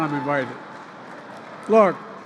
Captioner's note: laughter and applause